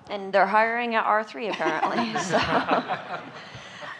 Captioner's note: laughing